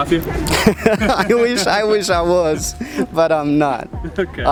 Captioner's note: laughing